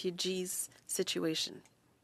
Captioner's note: speaking French